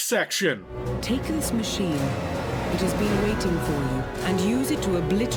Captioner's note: mechanical voice